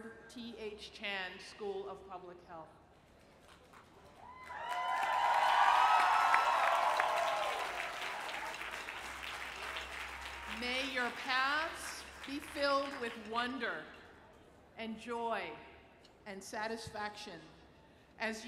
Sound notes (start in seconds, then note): 4.1 cheering